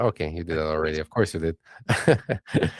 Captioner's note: laughs